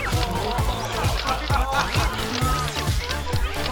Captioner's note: crowd cheering